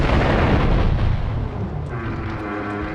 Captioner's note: gun firing